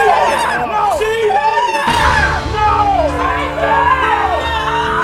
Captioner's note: woman cries